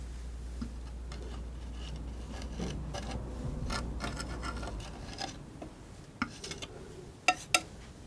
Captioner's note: scratching